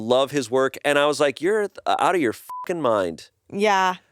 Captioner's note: beep